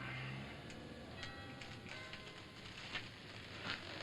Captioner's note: bells ringing faintly outside